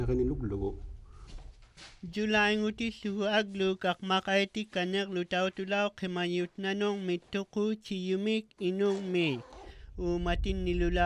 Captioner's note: speaking inuktitut